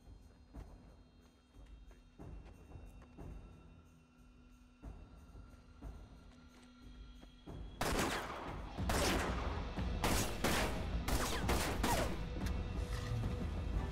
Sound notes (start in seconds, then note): 7.9 gun firing; 10.1 intense orchestral music